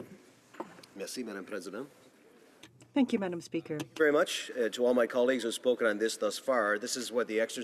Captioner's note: speaking french